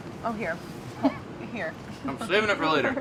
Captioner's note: laughs